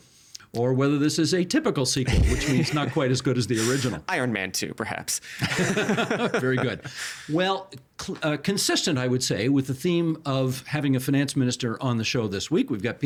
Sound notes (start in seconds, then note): 5.3 chuckling